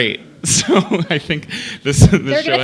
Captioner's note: laughter